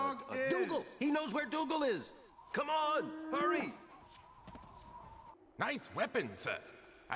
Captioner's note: none